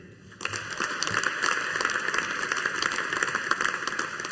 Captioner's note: audience applauding